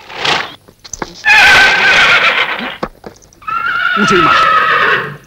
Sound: cries because of the unwillingness of leaving his master

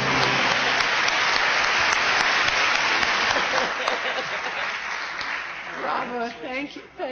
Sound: applause

